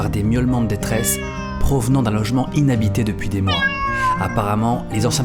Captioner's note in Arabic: مواء; مواء